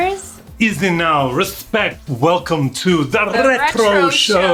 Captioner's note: Ali G Voice